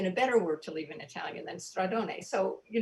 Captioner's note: speaking in foreign language